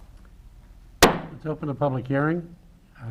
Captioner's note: gavel bangs